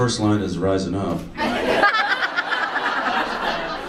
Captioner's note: audience laughs